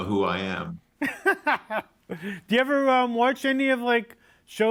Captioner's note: laughs